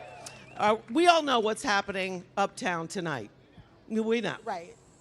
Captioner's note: applause